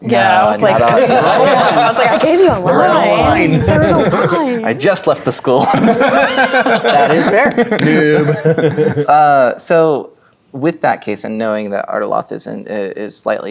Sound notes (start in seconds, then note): 0.0 all talking and laughing at once; 5.5 players laughing; 8.3 players laughing